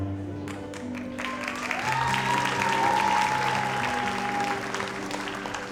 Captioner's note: audience applauds